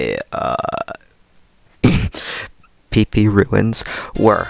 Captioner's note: ahem